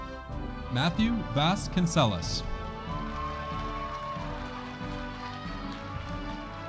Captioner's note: audience cheering